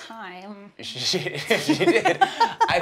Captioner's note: laughter